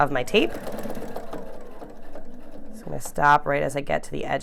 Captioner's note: machine whirring